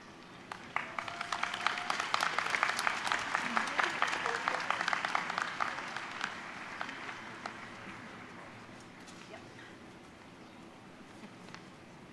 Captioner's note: applause